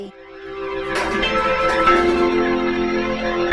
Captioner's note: crumbling